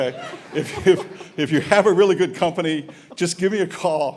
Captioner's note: laughter